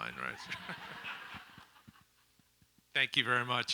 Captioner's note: audience laughs